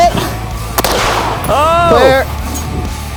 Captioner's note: gun bangs